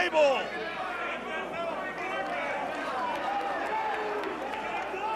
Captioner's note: crowd chatter